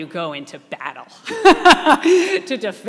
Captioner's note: laughing